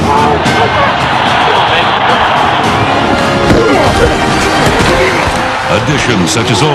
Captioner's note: crowd cheering